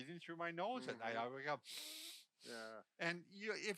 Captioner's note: sniffing